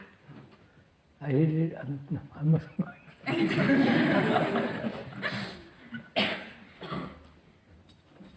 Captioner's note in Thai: หัวเราะ